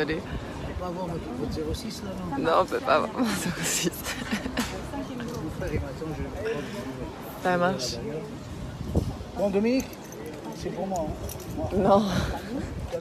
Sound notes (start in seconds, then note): 6.0 giggles